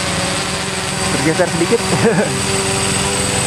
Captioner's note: chuckle